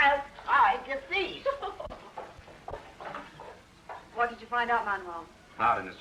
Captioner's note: laughs